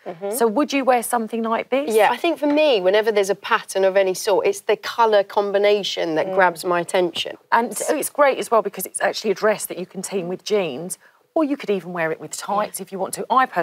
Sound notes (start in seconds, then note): none